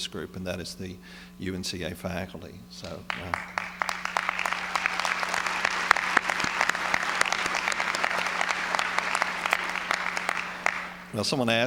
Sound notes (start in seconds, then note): 3.5 applause